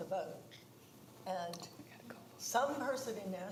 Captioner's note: quietly